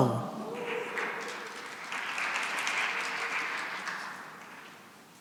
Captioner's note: cheering and applause